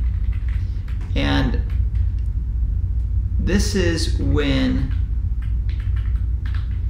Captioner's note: keyboard typing sound; keyboard typing sound